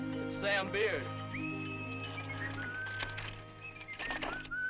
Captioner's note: Sam whistling